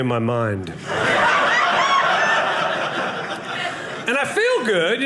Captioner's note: audience laughing